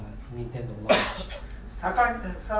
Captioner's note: coughing; speaking in foreign language